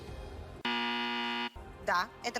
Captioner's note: strike from Russian "Family Feud"